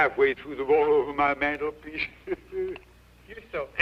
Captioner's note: laughs